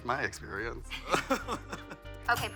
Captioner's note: both laughing